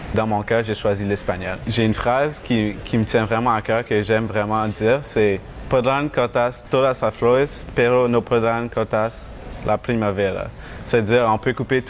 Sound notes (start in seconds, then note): 5.7 Spanish